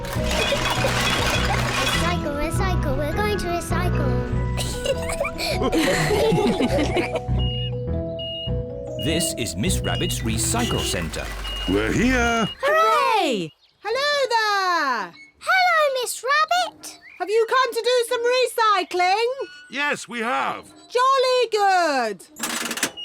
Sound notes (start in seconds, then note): 0.2 giggles; 4.6 all laugh; 7.3 crane beeping